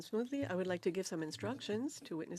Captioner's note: speaking French